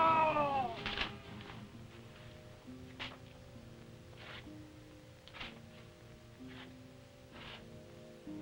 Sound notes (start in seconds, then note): 4.1 Popoca shuffling